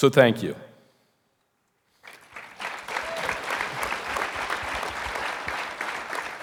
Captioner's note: audience applauding